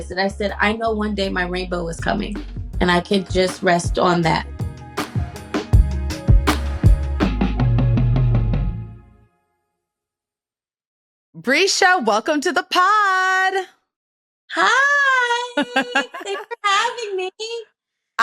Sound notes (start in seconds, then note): 15.5 chuckles